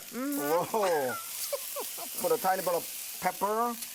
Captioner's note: laughter